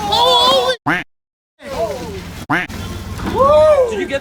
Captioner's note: fishermen exclaiming surprise; water splashing; duck quacking